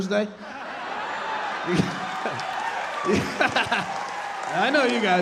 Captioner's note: audience laughing; laughing